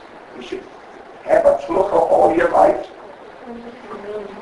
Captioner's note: Yiddish